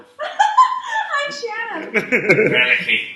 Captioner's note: giggles